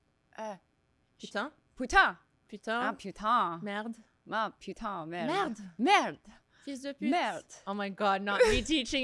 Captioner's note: speaking in French